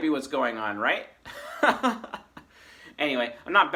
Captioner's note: laughs